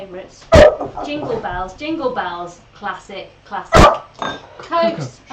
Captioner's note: COCO barks; COCO barks